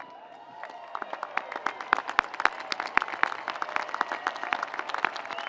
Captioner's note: audience applauds